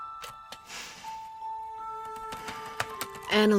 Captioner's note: inhales; typing